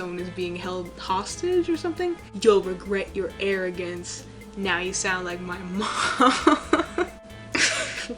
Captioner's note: laughs